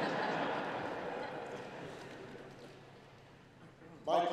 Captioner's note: laughter